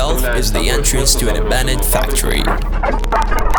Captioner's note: static